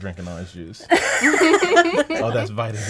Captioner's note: laughing